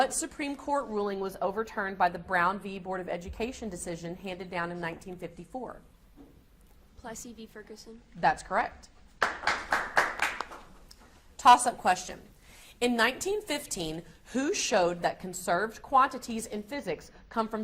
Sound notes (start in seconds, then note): 9.2 audience applauds